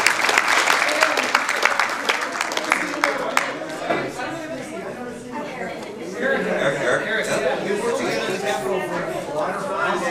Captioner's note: applause